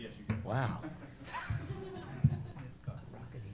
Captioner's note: laughter